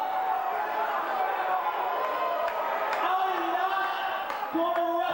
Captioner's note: crowd cheering